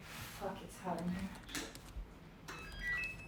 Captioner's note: phone beeping